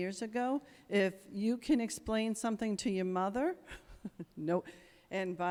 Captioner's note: chuckles